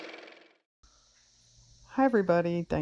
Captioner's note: car motor